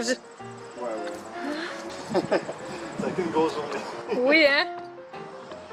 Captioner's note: laughs